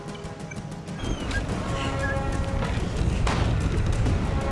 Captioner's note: wind howling